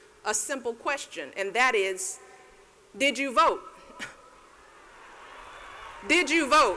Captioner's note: cheers; laughs